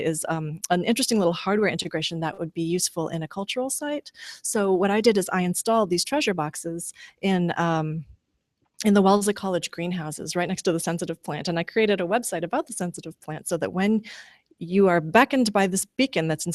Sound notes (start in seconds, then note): none